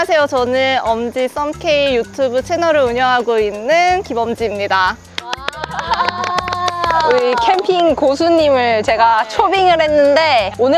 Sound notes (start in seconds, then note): 5.1 clapping; 5.2 A round of applause~~